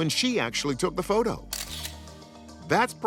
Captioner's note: camera clicks